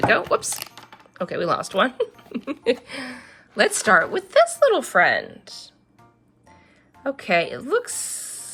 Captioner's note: laughs